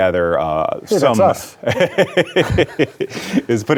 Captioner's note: both laughing